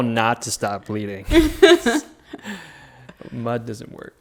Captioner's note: laughing together